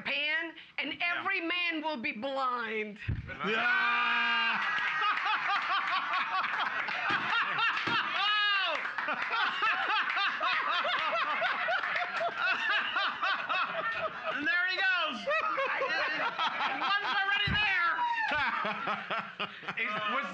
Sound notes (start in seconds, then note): 4.7 cheers and applause; 5.9 loudly laughing and clapping; 7.4 gavel knocking; 9.1 loudly laughing and clapping; 18.4 loudly laughing